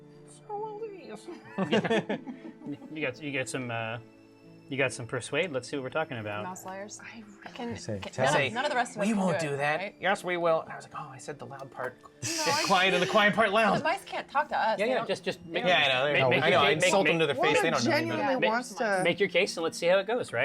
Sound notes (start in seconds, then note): 8.6 whisper